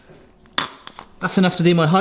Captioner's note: squeeze bottle squirts